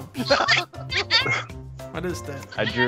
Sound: laughter

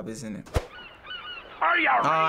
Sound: gulls squawking

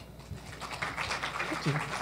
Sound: applause

